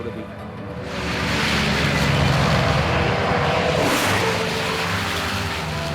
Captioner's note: airplane engines roar